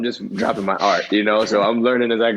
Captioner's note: laughter